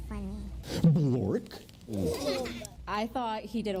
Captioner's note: children laughing